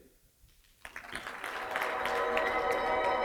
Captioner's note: audience applauds; bright musical flourish